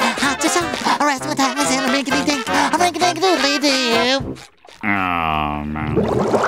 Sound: humming

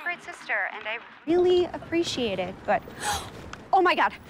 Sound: gasps

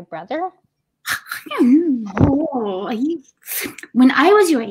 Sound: Umma grumbling

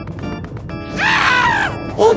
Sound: Mario screams

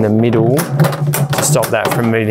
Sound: basket thudding

